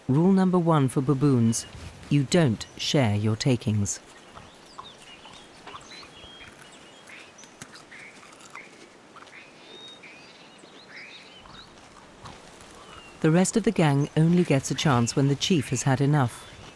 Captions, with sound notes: Rule number one for baboons, you don't share your takings. (birds chirping) The rest of the gang only gets a chance when the chief has had enough.